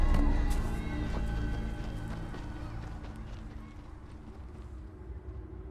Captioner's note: foreboding music; footsteps crunching